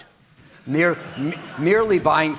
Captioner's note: audience laughing